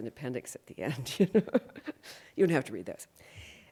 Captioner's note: laughs